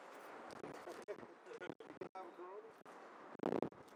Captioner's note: laughing